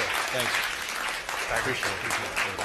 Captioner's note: applause